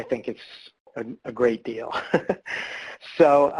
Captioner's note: laughs